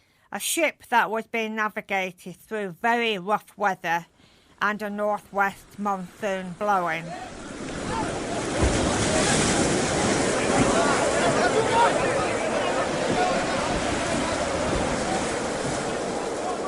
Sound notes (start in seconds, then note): 7.0 howling wind, men yelling